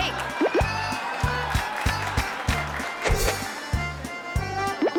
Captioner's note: bird excrement plops